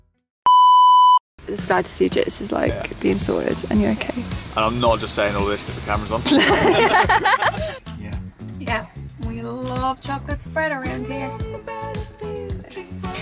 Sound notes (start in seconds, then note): 6.2 laughs